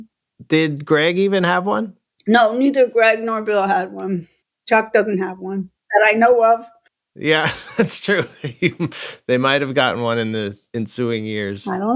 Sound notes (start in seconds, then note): 7.4 laughter